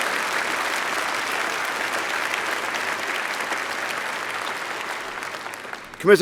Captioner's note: applause